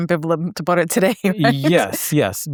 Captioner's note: laughs